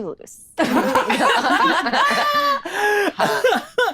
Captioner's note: laughs